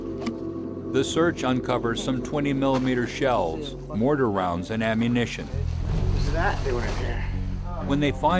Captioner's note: voiceover